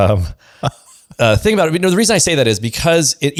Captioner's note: laughs